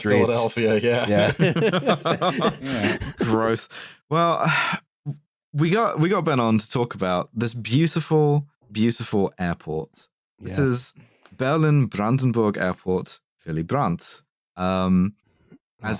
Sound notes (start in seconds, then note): 1.1 laughter